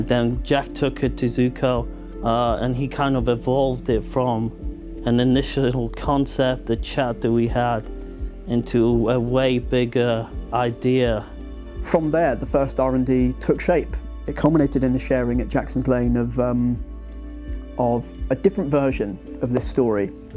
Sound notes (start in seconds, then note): none